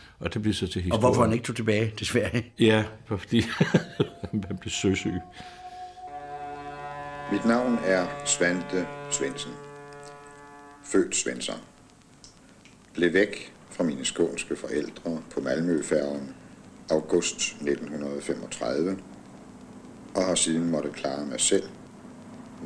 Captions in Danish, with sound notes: Og hvorfor han ikke tog tilbage til Sverige? Ja... fordi han blev søsyg. (Færge tuder) Mit navn er Svante Svendsen, – – født Svensson. Blev væk fra mine skånske forældre på Malmøfærgen august 1935, – – og har siden måttet klare mig selv –